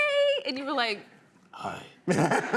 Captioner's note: deep voice; laughter